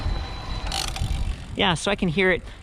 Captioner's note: motor whirring; spokes ticking